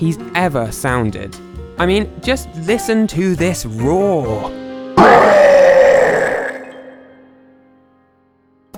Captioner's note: roar